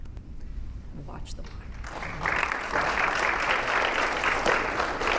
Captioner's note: audience applauding